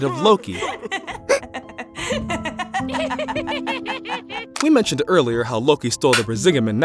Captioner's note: Freya and Loki Laughing Together